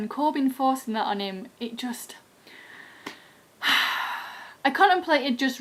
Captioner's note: sigh